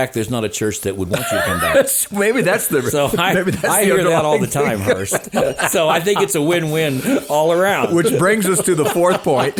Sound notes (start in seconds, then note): 1.7 laughing; 5.3 laughing continues